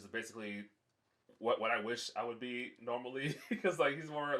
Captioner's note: laughs